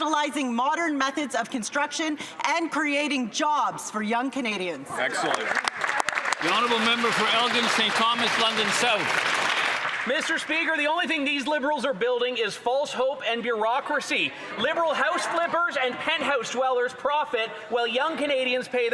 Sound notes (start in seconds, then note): 9.2 some Applause